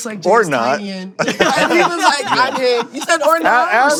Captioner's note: laughter